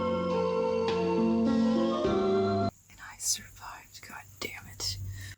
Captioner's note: whispered, dark tone